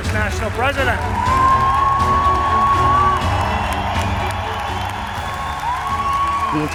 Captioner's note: applause